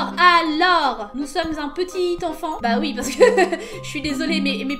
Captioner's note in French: rires